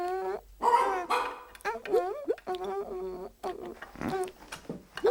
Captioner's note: barks